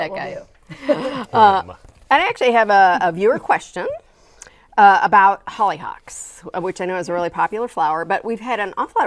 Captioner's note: laughing